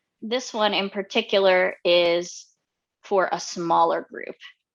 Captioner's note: none